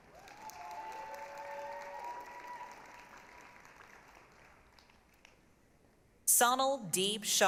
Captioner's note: applause, cheering